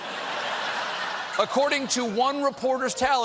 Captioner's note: laughter